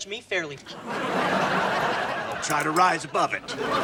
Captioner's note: audience laughs